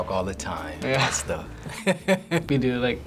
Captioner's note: laughs